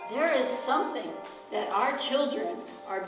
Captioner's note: voiceover